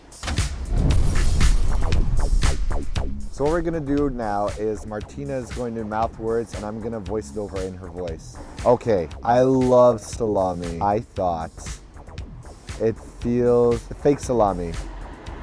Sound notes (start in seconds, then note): 0.7 faint explosion